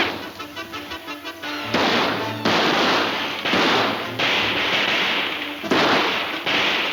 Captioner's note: guns firing